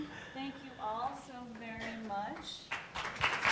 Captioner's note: applauds